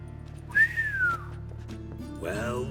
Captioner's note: whistle